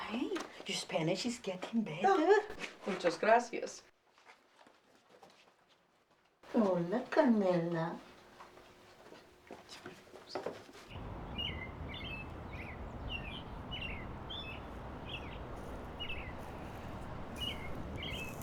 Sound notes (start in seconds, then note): 6.3 mocking; 10.9 birds chirping